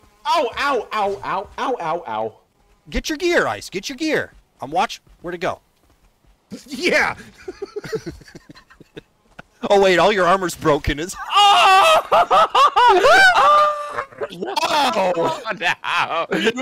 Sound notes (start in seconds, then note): 7.1 laughter; 11.2 hysterical laughter